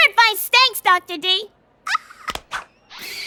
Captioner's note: raspy squeak